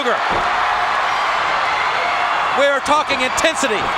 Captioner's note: crowd cheers